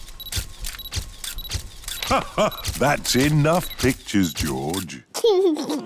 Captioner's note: laughs; giggles